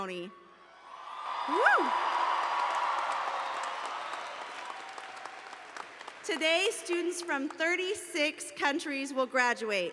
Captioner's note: cheers and Applause